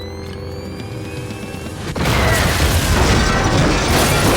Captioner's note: explosion